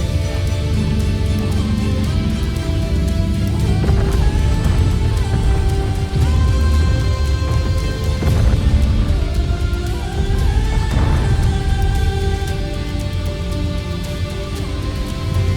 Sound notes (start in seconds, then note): 0.2 echoing screech; 3.2 heavy footsteps clomping; 3.2 rumbling; 15.3 echoing screech; 15.3 music swells